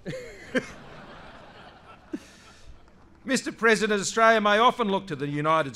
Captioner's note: laughter